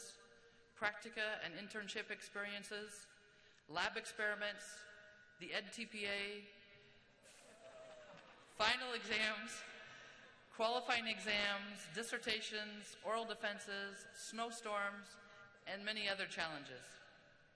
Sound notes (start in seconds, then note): 7.4 cheering